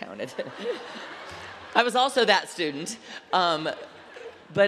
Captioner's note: laughter